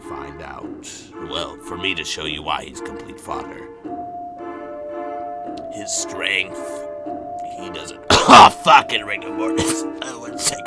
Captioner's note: coughs